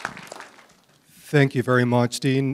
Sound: applause

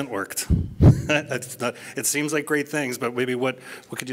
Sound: laughs

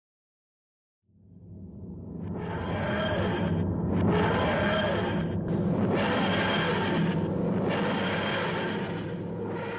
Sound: TARDIS dematerializing

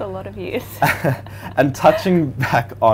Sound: laughing

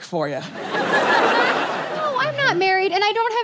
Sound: audience laughs

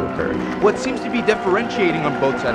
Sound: voiceover

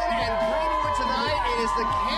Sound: cheers and applause

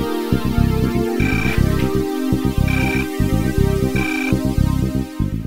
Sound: mobile Phone Ringing

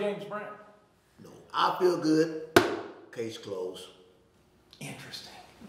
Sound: slapping

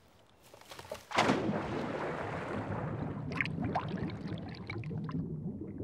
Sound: water splashing

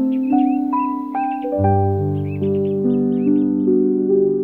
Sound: birds are chirping

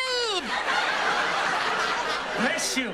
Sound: laughs

